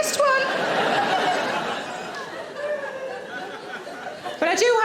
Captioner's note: audience laughing